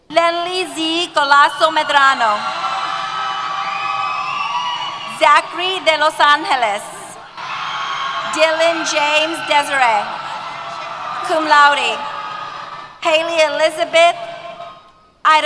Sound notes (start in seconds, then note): 2.3 cheers